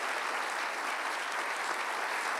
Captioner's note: applause